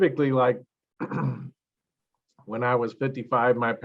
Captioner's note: clears throat